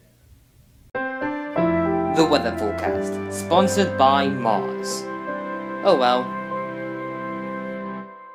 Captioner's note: voiceover